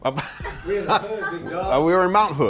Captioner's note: laughing